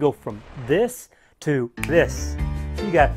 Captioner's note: snaps